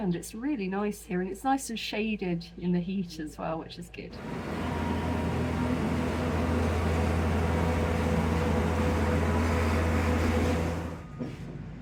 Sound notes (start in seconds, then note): 4.1 loud road noise